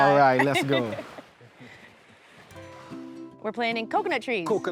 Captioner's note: both laugh